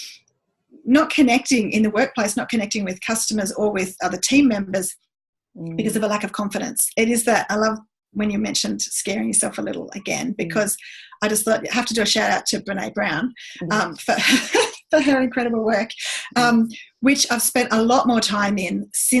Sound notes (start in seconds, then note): 14.1 laughs